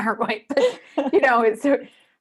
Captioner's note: both laughing